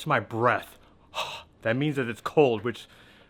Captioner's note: exhales